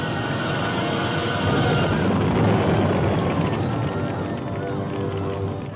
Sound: gunpowder exploding

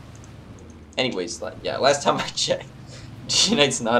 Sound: chuckles

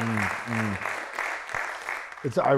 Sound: applause

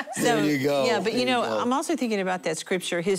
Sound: laughter

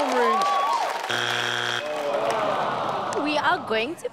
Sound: buzzer sounds

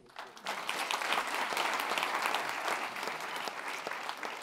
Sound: audience clapping

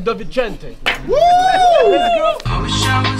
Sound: cheering

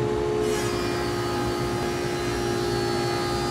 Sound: saw zings

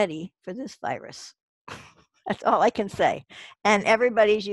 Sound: laughs

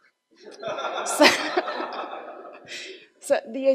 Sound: audience laughs

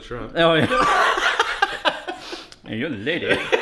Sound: laughing

